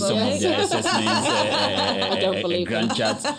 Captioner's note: laughter